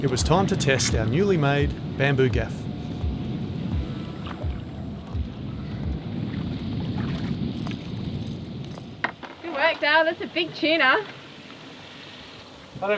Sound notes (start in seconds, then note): 6.8 fish flapping